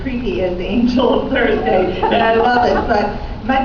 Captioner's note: laughing